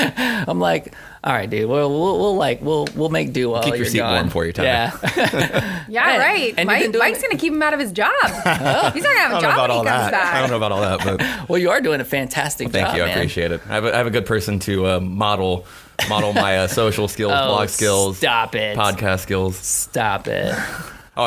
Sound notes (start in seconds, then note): 4.6 laughter; 8.2 laughter